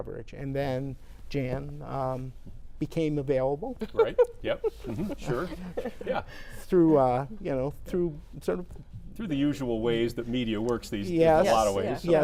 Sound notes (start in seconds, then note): 3.8 laughs